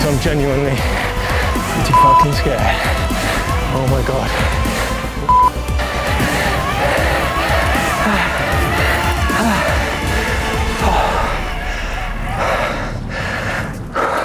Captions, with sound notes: 'cause I'm genuinely pretty (beep) scared. Oh my god. (beep) (heavy breathing)